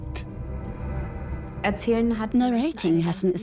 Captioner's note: in German; dubbed in English